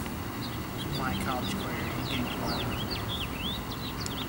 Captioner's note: car drives by, birds chirping